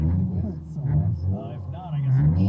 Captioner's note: vroom vroom